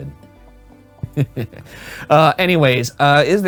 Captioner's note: chuckling